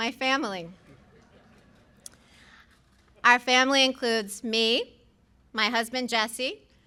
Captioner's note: laughter